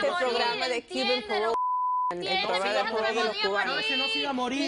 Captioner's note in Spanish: Bip